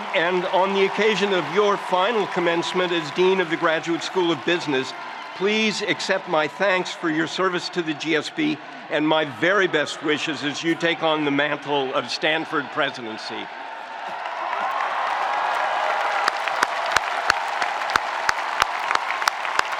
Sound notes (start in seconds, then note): 14.2 spectators cheering; 16.2 spectators applauding